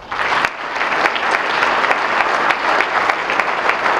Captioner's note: audience clapping